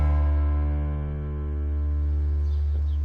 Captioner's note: birds chirping